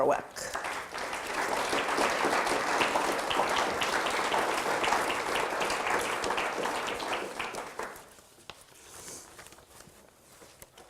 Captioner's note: audience applause